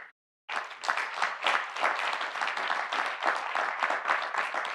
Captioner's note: audience applauding